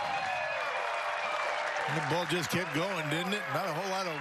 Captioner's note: cheers and applause